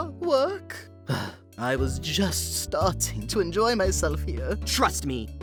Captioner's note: sigh